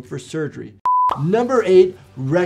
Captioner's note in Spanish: pantalla pitando